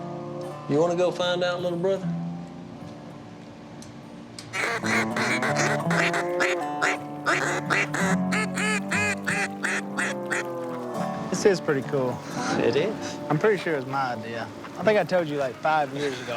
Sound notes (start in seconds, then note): 4.5 ducks calling